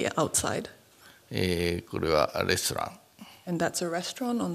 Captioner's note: speaking japanese